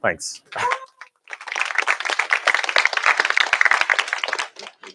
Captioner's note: cheers, applause